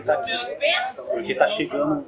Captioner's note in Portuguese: barulho da plateia se dispersando ao fundo